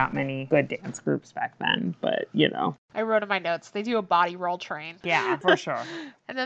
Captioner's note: laughs